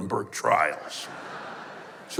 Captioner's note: laughter